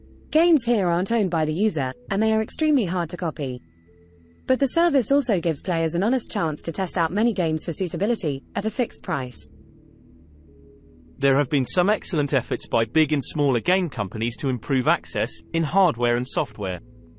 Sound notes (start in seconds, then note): 10.9 british male voice